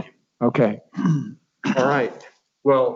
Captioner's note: clears throat